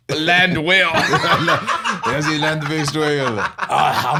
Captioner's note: French accent